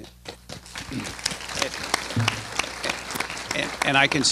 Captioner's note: applause